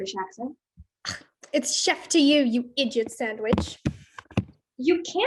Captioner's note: scoffs